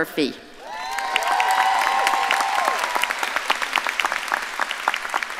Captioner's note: audience cheering and applauding